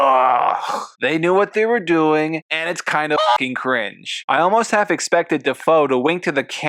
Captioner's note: cluck